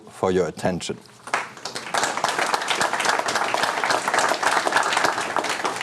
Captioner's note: audience clapping